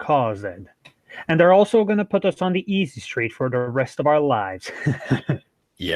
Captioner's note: evil chuckle